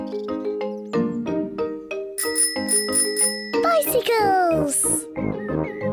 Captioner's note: bicycle bell ringing